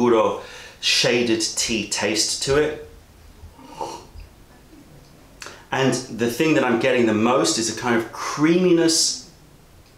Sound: sips tea

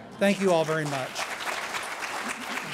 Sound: clapping

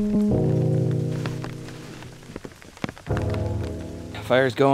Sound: rain splashing

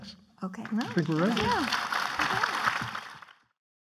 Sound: clapping

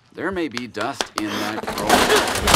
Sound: clapping; crashing

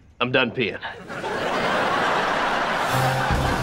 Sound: laughing

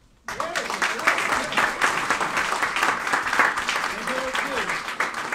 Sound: applauding and mumbling

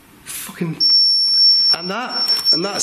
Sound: loud beeping

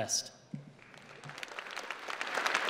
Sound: applause

